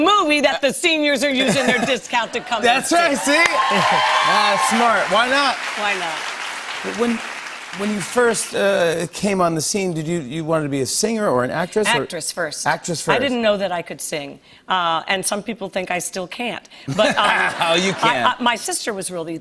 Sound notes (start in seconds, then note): 2.6 cheers and applause; 16.9 laughter